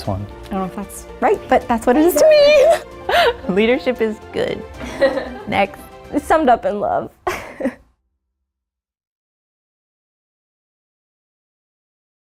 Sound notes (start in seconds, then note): 2.2 laughs; 4.8 laughs; 7.5 laughs